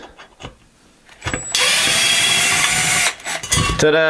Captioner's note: whirring